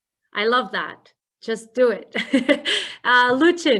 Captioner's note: laughs